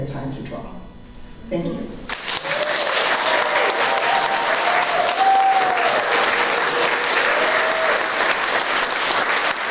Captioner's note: applause